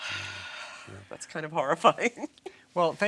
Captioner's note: laughing